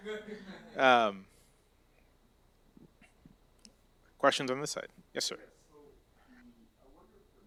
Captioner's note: laughter